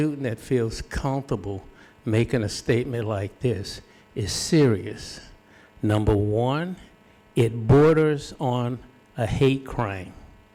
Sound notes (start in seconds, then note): none